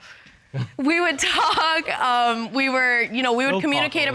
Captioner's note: chuckles